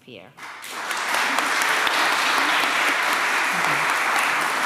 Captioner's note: applause